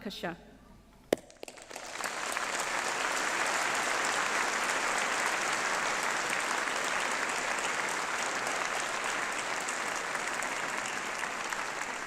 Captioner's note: applause